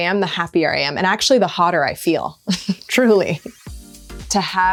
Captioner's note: chuckles